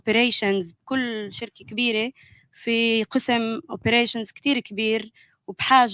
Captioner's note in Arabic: لغة أجنبية; لغة أجنبية